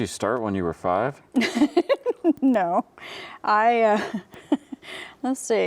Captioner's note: laughs